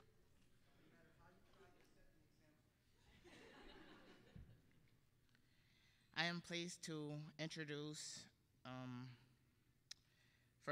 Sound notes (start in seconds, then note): 1.3 all laughing